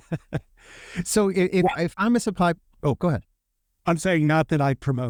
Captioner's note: laughing